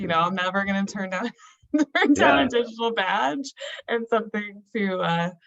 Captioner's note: laughing